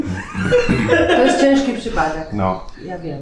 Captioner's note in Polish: Śmiech